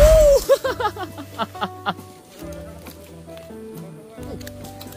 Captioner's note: laughs